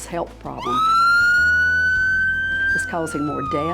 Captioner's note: siren wailing